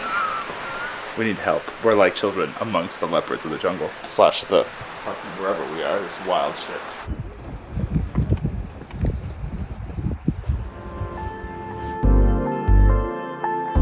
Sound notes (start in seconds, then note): 0.0 laughing enjoyably; 7.1 wind blowing gently; 8.0 wildlife chirping steadily